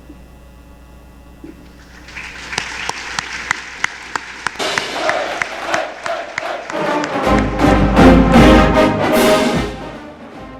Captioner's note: applause